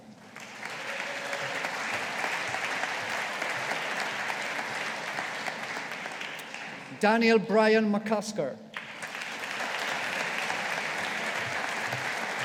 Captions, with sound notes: (AUDIENCE APPLAUDING) Daniel Brian McCusker. (AUDIENCE APPLAUDING)